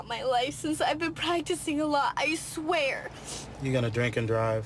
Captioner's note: Sniffles